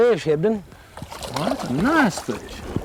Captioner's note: splash